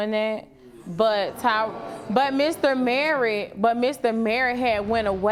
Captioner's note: audience gasping